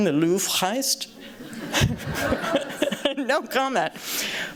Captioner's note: laughter